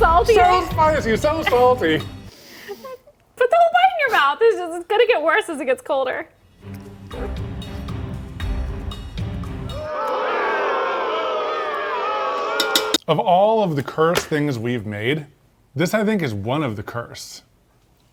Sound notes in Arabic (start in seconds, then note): 7.1 موسيقى حادة; 9.7 صيحات الاستهجان من الجمهور